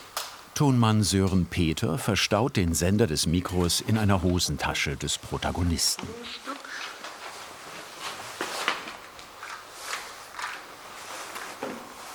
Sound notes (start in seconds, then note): 7.1 rustling